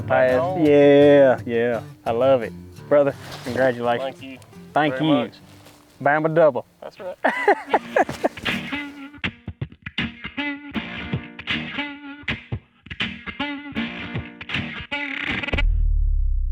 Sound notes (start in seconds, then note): 7.0 laughs; 8.9 country music plays